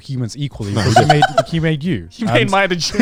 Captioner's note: laughing